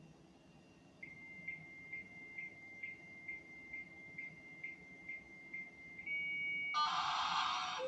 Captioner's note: other modem picks up the line and starts screeching